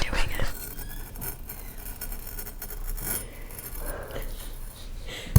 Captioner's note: metal scrapping on sand